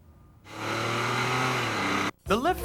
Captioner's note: engine revving